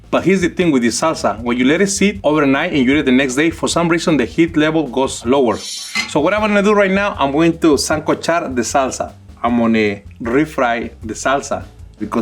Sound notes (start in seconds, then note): 7.7 speaks in foreign language